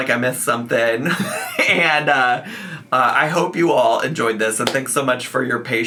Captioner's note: laughing